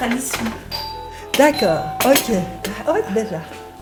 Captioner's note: doorbell